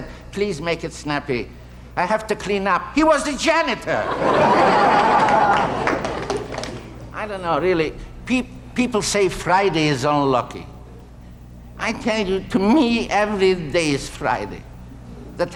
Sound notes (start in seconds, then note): 3.9 audience laughting